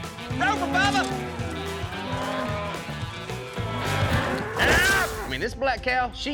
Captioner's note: mooing